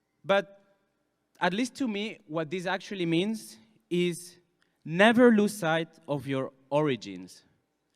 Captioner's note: none